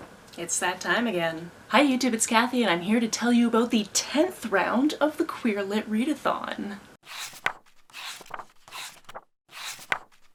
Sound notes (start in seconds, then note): 7.0 pages turning